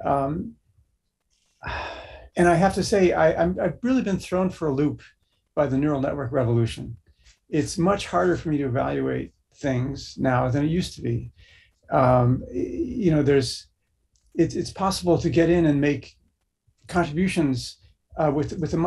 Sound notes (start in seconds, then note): 1.6 sigh